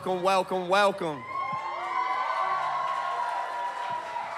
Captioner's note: audience cheers and applauds